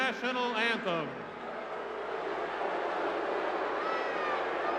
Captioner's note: crowd booing